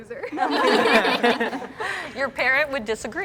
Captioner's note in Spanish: risas